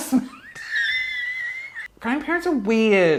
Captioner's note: laughing loudly